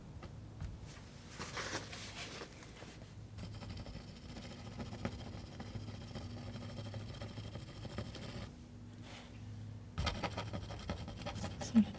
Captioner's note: scratching